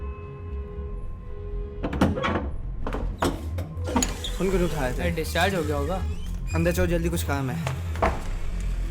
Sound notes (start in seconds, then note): 1.8 door Opens